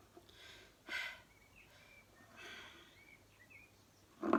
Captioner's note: breathing